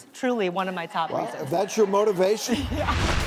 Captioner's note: audience laughs